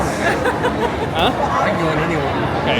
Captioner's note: laughing